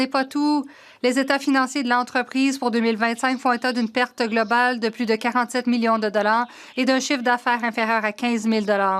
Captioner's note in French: voix de l'interprète